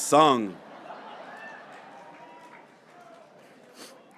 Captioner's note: graduates cheering